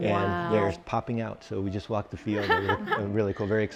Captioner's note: laughs